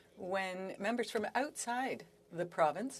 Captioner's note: speaking french